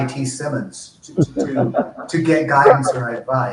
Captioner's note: laughs